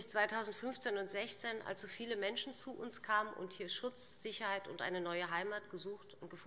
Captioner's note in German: none